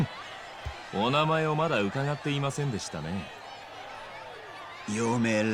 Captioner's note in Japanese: 大歓声